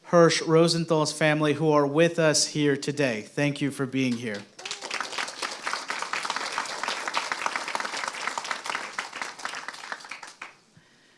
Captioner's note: applause